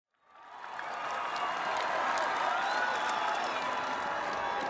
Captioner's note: crowd cheering